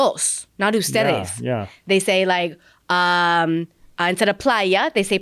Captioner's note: Spanish; Spanish